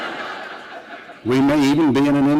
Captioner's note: laughter